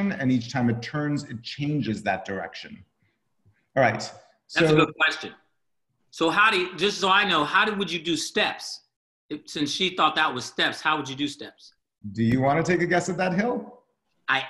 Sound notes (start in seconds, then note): none